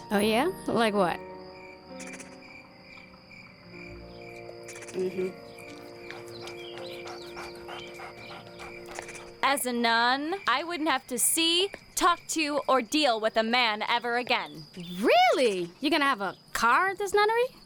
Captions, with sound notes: Oh yeah? Like what? (crickets) Un-huh. (dogs panting) As a nun I wouldn't have to see, talk to, or deal with a man ever again. REALLY?! You gonna have a car at this nunnery?